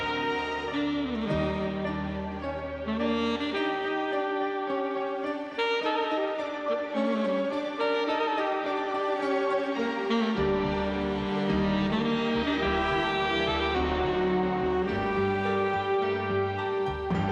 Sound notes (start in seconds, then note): none